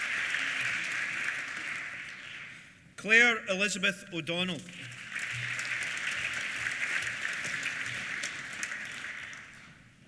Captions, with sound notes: Claire Elizabeth O'Donnell. (APPLAUSE)